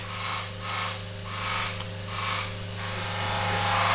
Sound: grinding noise in the background

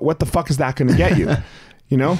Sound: chuckles

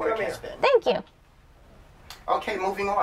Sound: background voices talking

